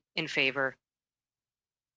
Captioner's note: speaking French